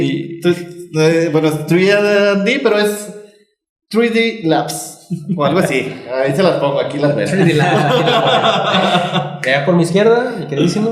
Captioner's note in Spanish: risas